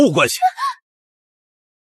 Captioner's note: gasps